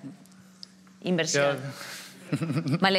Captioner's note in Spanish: alguno ríe